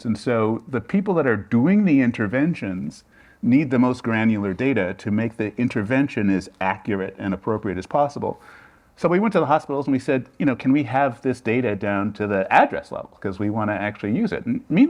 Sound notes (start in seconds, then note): none